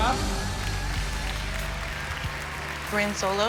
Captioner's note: cheering